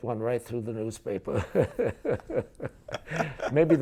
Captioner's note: laughing